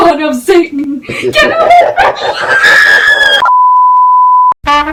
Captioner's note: demonic laughter